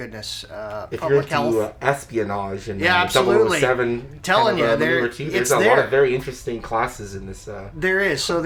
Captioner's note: overlapping agreeing and talk of espionage